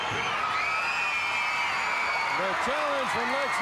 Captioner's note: audience cheers